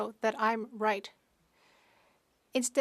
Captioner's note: speaking French